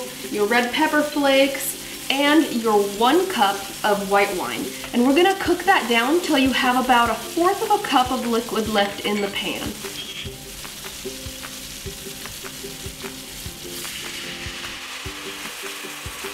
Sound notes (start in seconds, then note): 10.9 simmering; 13.6 upbeat music